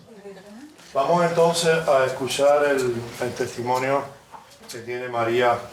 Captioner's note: instructor speaking in Spanish